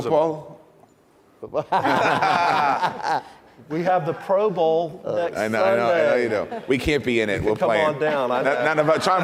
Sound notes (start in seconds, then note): 1.7 laughing